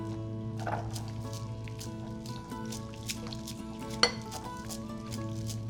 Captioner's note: mixture swishing